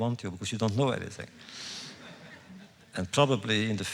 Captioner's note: laughter